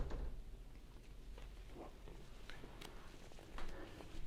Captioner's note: door bangs